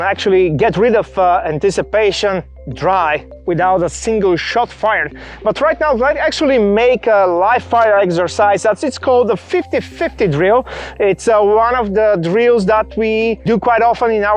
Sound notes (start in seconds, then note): none